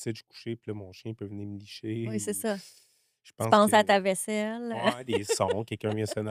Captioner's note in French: rires